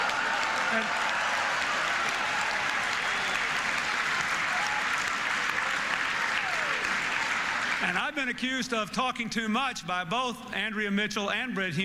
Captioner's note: applause, Laughter